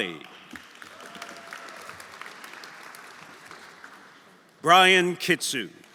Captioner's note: audience applauding; audience cheering